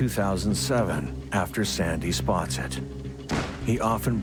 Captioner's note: gun firing